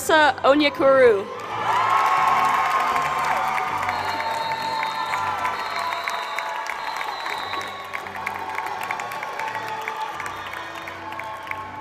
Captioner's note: applause